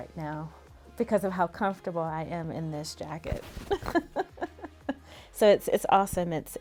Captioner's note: laughs